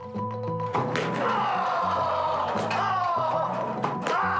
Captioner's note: man screaming